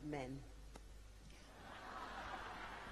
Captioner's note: laughter